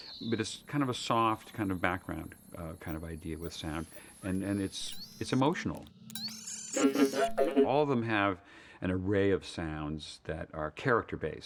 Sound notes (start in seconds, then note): 6.8 laughing